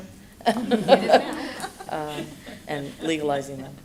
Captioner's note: laughter